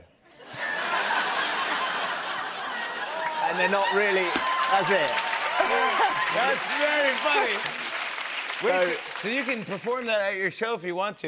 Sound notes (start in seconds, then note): 0.3 laughter; 5.2 cheers and applause